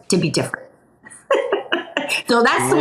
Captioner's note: laughs